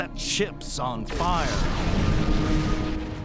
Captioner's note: explosion noise